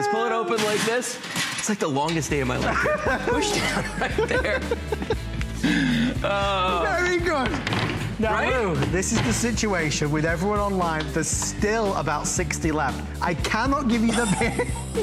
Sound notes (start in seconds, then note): 5.1 laughter; 10.0 laughter